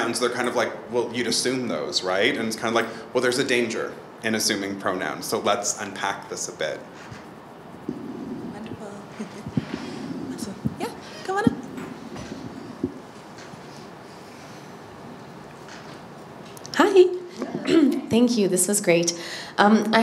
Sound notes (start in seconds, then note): 8.3 laughs; 17.2 clears throat